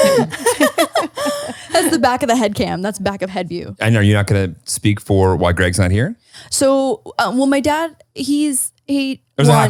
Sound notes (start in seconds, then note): 0.0 laughs